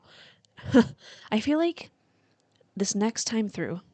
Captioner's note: dry laugh